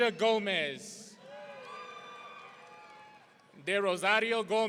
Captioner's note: audience cheering